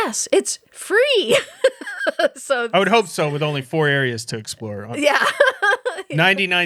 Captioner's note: laughing